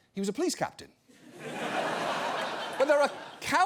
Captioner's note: audience laughs